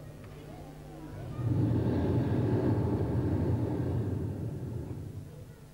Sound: shri mataji blows into the microphone

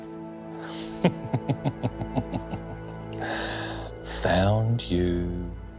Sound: laughing

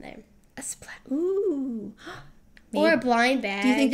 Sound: gasp

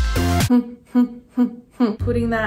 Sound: upbeat rock music; humming

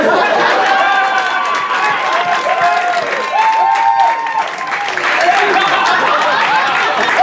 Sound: applause

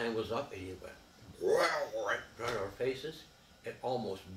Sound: mimics roaring

